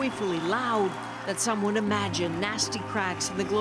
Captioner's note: cheers and applause